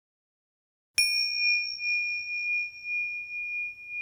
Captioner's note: bell chimes